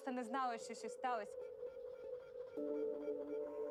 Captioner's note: equipment buzzing